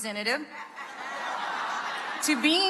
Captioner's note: audience laughing